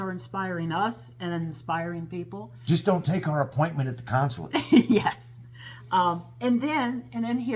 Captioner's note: laugh